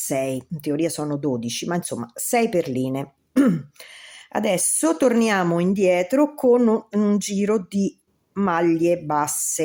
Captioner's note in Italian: schiarire la voce